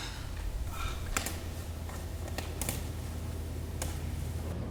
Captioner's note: buttons popping